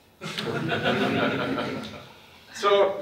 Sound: audience laughs

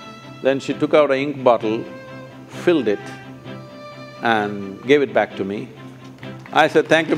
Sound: applause

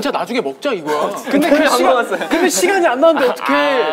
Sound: laughing

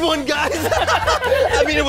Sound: laughs

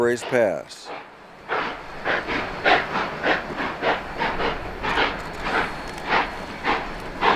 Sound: steady chugging

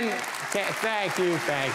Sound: audience applauding

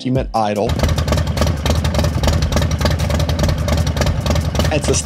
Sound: engine revving

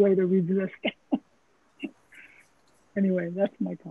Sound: chuckles

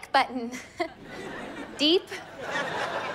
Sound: chuckles

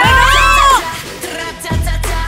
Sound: screaming

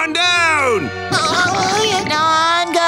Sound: whimpering

